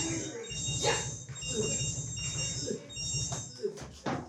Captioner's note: groans